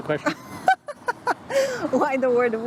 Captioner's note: laughs